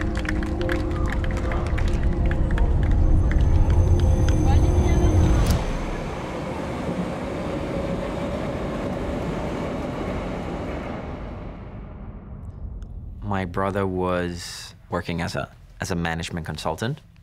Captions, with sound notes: [train chugging] My brother was working as a management consultant.